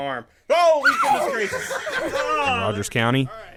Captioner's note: laughs